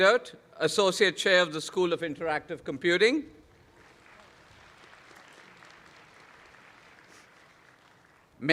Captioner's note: applause